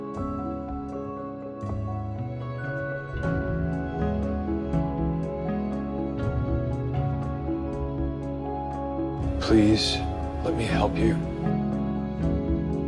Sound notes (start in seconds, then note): 9.6 voiceover